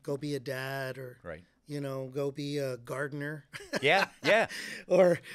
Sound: laughing

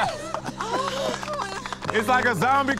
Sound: contestants clapping; panting

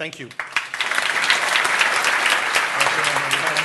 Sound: applause

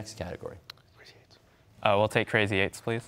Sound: whispering

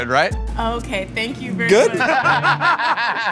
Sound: laughter

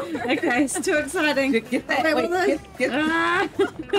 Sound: both laugh

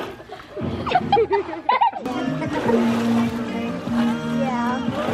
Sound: kids laughing

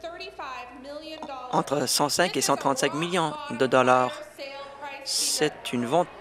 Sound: applause

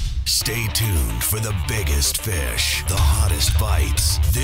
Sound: voiceover

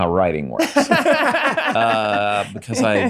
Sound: Charlie and Megan laughs

